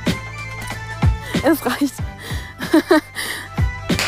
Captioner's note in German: lacht